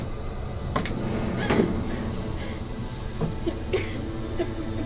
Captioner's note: gasping; coughing